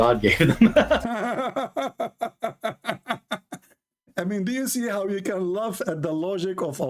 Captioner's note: Ketawa